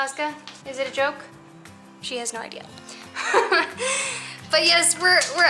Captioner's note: laughter